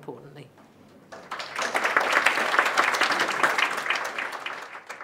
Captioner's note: applause